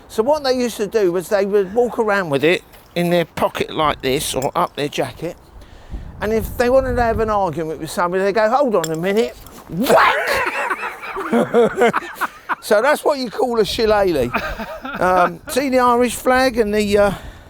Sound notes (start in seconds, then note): 9.8 both laughing